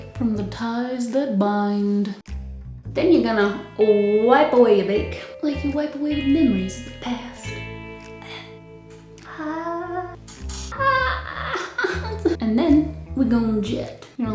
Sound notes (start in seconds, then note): 10.2 weeping and gnashing of teeth